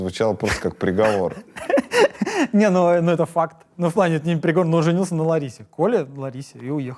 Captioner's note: laughs